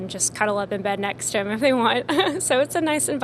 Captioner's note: laughs